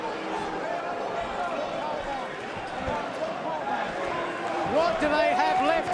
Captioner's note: crowd chatter